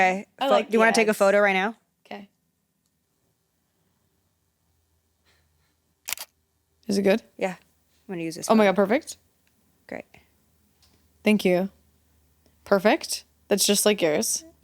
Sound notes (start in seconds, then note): 6.0 camera clicking